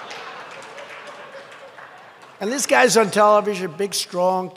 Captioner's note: laughter